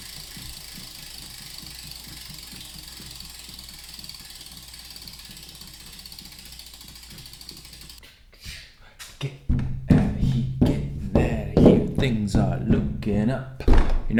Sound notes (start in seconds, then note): 0.0 bike wheel, globe, and chair spinning; 9.4 singing